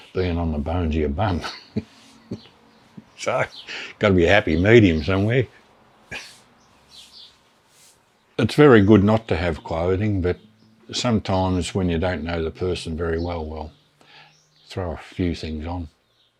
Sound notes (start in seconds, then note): 1.3 chuckle